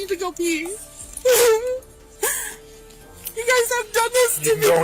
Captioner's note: cries